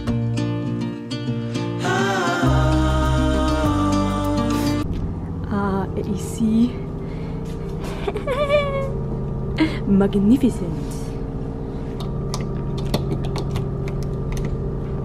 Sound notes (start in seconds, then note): 2.1 singing soft high in key; 7.8 laughing; 10.6 sounds of the boat throughout